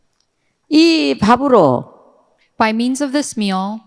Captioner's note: speaking in foreign language